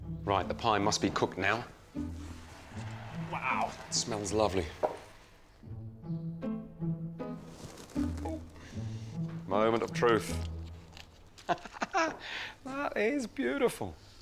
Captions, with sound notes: Right, the pie must be cooked now. Wow. Smells lovely. (bowl thumps) Oop. Moment of truth. (laughs) That is beautiful.